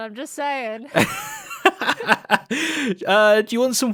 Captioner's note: laughs